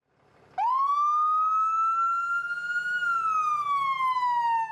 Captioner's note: siren wailing